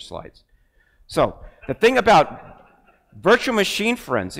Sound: crowd laughs

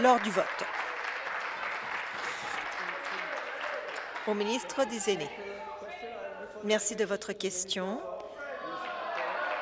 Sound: applause

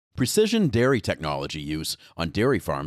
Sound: voiceover

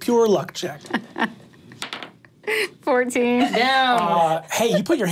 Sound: laughs

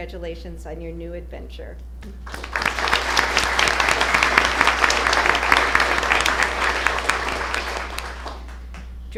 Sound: applause

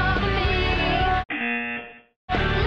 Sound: buzzer

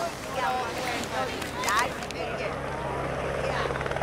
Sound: excited chattering; helicopter blades whirring

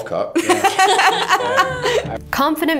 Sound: laughs

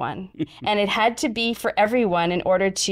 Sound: chuckles

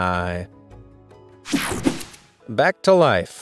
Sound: digital buzzing

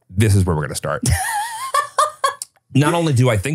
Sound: laughing

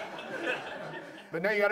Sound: audience laughs

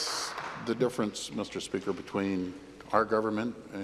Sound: applause

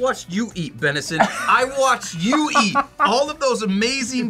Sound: laughs

